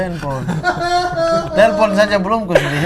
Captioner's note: laughing